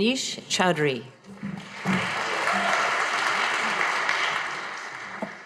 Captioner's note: audience applauding